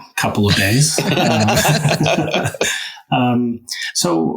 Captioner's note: crowd laughing